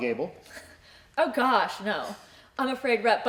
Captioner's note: chuckles